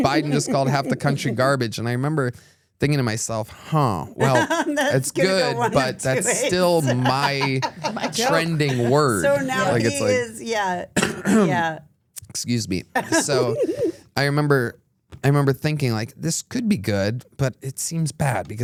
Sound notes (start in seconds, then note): 11.0 Tony coughs